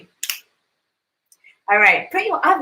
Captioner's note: finger snaps